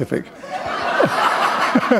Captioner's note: laughter